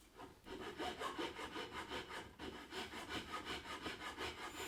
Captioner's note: sawing sound